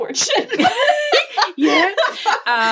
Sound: laughing

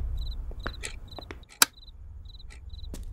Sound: switches on

